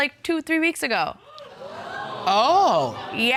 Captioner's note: audience gasp